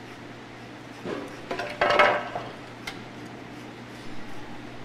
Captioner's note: object clattering; zester scraping